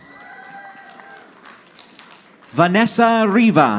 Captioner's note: audience applauding